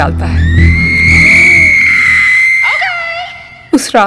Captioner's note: Screaming